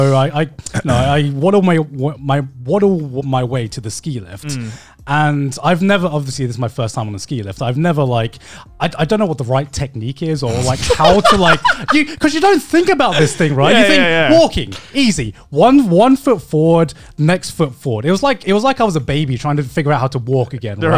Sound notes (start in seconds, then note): 10.4 laughing